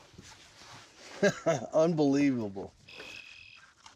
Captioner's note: chuckles